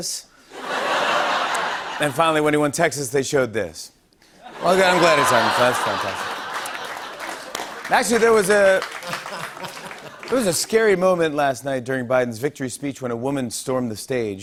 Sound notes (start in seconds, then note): 0.5 laughter; 3.4 stammers; 4.5 laughter and applause